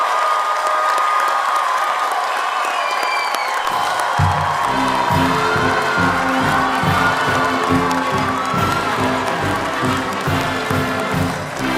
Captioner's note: cheers